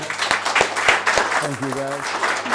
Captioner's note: applause